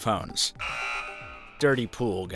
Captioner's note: buzzer buzzing